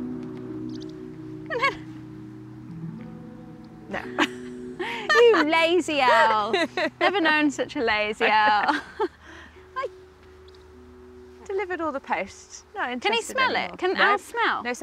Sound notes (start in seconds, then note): 0.6 owl chirps; 3.9 laughs